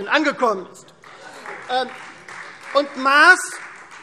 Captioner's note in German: Beifall Freie Demokraten